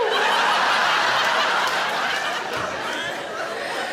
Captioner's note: audience laughing